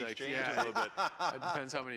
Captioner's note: laughs